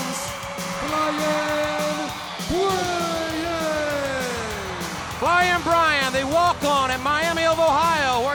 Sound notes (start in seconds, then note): 3.0 crowd cheering